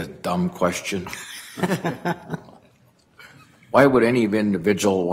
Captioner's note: laughter